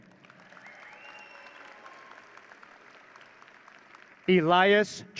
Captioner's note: audience cheering